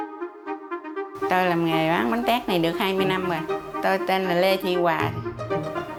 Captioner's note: speaking in foreign language